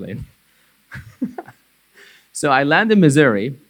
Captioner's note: laughing